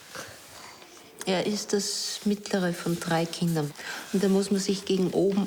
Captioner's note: speaking foreign language